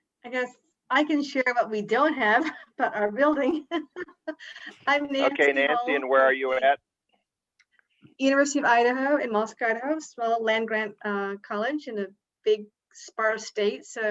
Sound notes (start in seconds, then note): 3.4 laughs